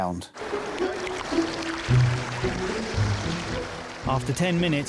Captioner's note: water sloshing; bright music